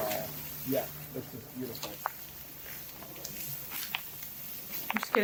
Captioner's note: muffled footsteps through pollen